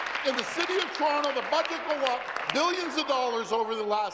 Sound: applause

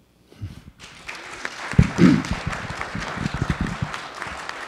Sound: audience applauding

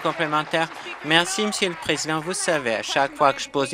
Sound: applause

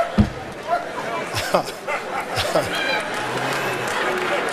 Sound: Steve chuckles

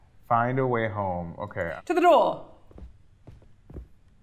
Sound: none

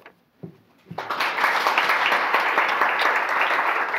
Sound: audience applause

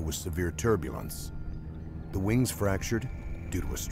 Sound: voiceover

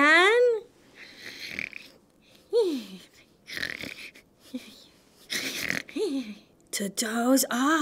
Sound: snoring!

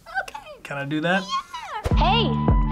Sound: squeaks

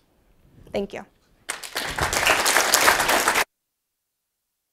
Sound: applause

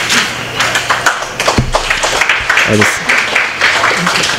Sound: applause

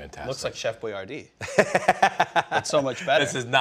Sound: Ming laughs

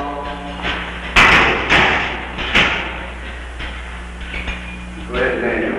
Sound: clanking noise as police open door at end of corridor

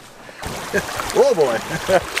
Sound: laughing

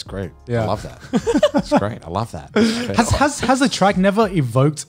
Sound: laughs

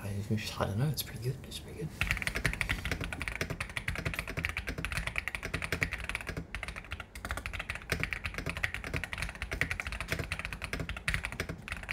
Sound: keyboard sounds

